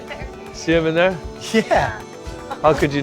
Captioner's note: laughter